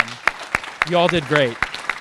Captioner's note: audience applauding